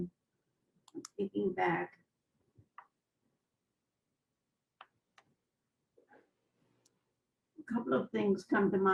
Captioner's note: pauses for 6 seconds